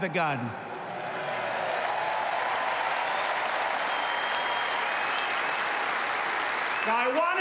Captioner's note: applause